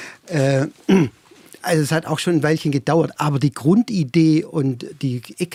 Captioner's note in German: räuspern